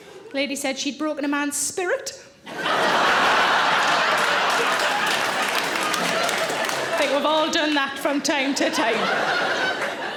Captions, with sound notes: a lady said she'd broken a man's spirit. (audience laughing and clapping) I think we've all done that from time to time.